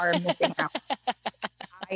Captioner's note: laughter